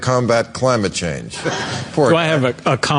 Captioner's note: laughter